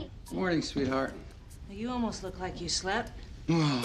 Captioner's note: groans